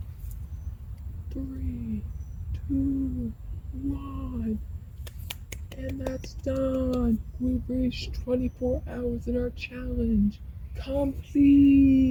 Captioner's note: clap noises